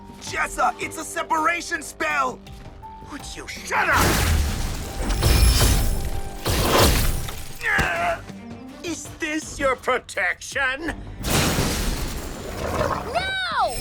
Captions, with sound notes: Jessa, it's a separation spell! Would you just shut up! -[magical buzzing] -[explosions] [Louis grunts] Is this your “protection”? -[Brax growls] -No!